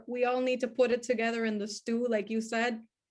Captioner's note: none